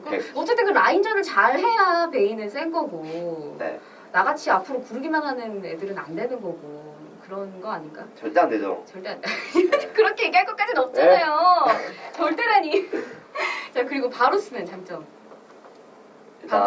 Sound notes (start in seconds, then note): 11.5 laughs